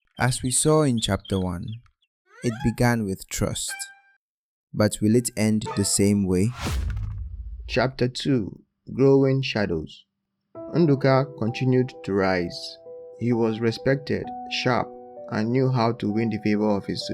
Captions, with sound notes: As we saw in chapter one, it began with trust. But will it end the same way? [thud] Chapter Two: Growing Shadows. Nduka continued to rise. He was respected, sharp, and knew how to win the favor of his